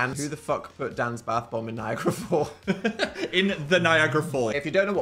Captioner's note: chuckles